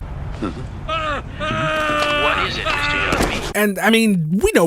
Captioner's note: screams